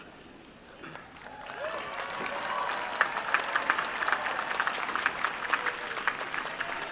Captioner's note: applause